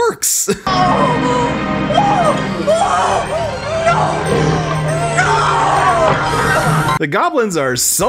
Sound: more disgusted druid lady goblin sounds

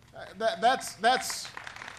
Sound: applause

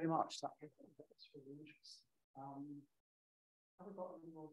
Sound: faintly speaking

